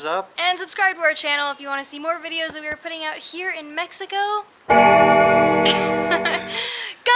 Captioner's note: bell Ringing